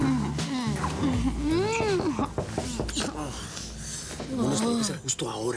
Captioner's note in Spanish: Murmullos románticos; Toques en la puerta